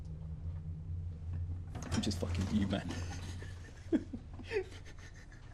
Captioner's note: laughing; laughs